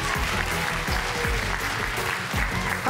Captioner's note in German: Applaus